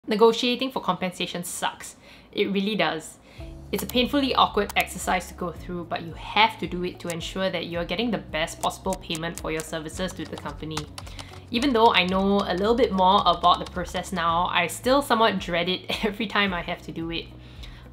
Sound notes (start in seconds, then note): 11.2 keyboard clicking